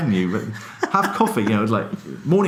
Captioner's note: laughs